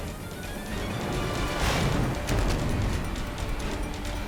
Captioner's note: flames rumbling; intense orchestral music